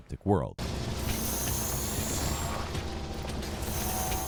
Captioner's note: bike whirring